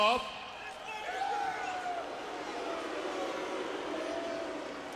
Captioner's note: crowd jeering